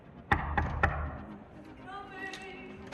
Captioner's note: knocking